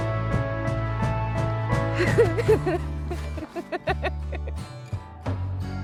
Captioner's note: laughing